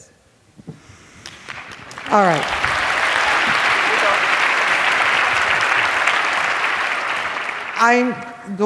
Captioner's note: applause